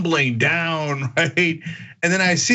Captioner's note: laugh